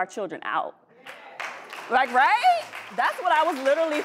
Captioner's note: audience clapping